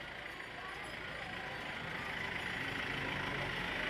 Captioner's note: engine humming